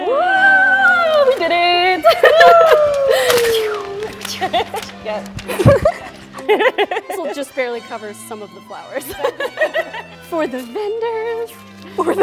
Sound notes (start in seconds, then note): 2.2 women laugh